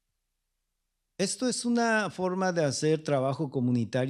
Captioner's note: speaking spanish